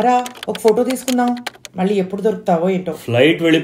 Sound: pleads

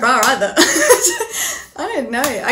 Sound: laughs

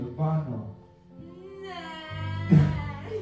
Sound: exclamation of disgust

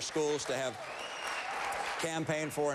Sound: applause

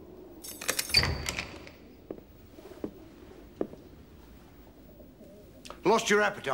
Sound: keys clanging; doorknob clicking

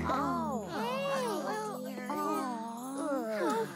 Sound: sympathetic murmurings

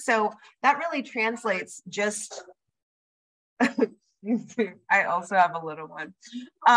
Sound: laughter

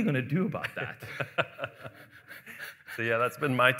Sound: laughing

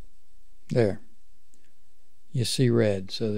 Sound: clicks

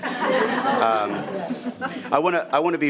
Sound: audience laughing

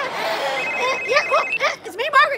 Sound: laughs; phone ringing

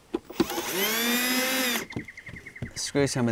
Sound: screwdriver whirring

